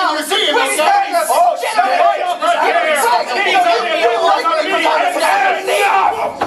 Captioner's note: Cores all shouting overtop of each other